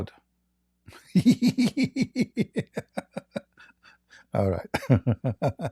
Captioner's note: Ketawa